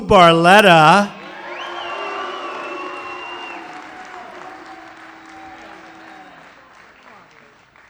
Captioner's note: applause